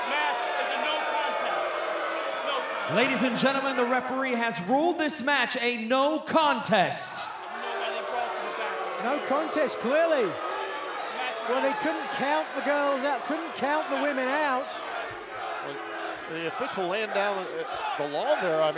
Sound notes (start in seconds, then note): 0.0 crowd boos; 7.6 crowd boos; 15.0 crowd chants indistinctly